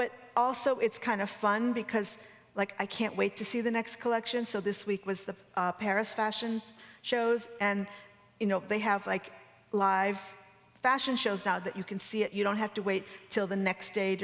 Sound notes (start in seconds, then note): none